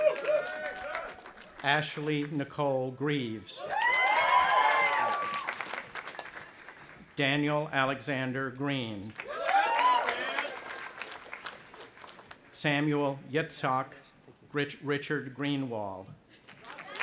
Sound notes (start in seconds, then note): 0.0 audience applauding and cheering; 3.6 audience applauding and cheering; 9.2 audience applauding and cheering; 16.5 audience applauding